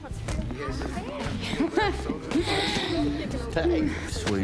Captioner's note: laughing